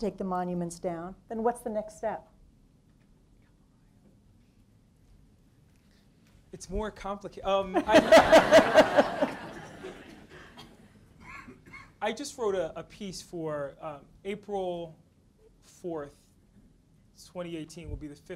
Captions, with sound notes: not to take the monuments down, then what's the next step? - It's more complicated, (audience laughs) I just wrote a piece for, April 4, 2018 will be the 50th anniversary